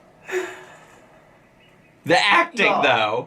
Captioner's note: whimpers